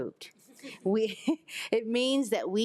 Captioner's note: attendees laughing